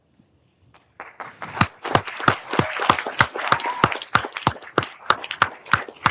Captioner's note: everyone applauding